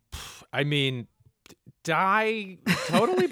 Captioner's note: laughter